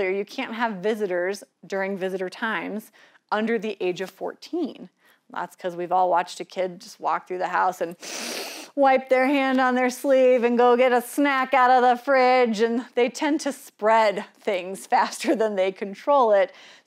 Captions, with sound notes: you can't have visitors during visitor times, under the age of 14. That's cause we've all watched a kid, just walk through the house and (sniffs) Wipe their hand on their sleeve and go get a snack out of the fridge and they tend to spread things faster than they control it,